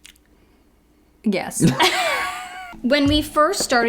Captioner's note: laughs